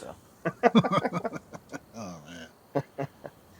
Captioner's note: laughter